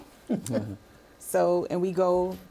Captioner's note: chuckling